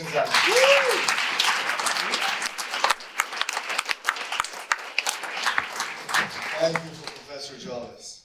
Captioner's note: audience applause